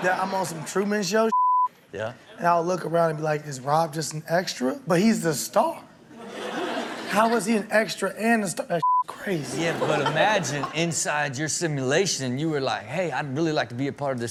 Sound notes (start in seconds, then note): 1.3 beep; 8.8 beep